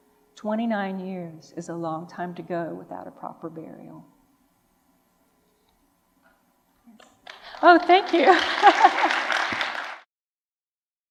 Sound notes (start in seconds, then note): 7.2 applause; 8.2 laughs